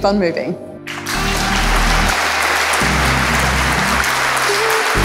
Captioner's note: audience applause